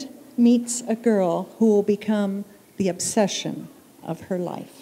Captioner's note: none